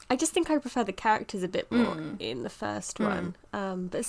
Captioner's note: hums in agreement